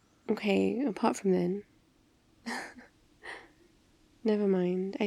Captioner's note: laughs